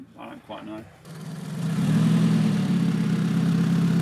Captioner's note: engine noises